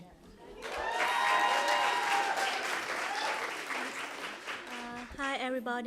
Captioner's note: applause